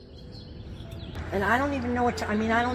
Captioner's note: bird sounds of Stanford campus